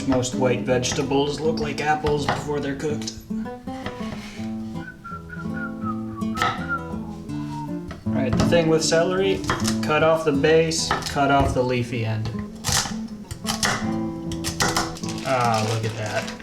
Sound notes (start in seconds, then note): 4.3 whistling; 13.3 chopping Noises